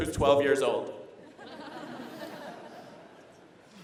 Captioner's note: laughter